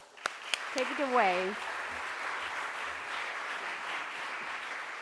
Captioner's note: crowd applauds